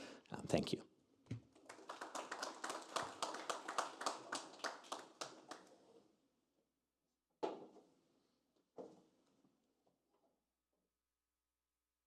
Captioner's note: applause